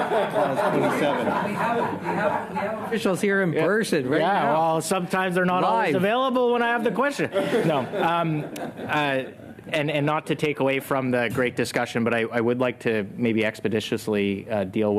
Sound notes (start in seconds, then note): 4.6 laughter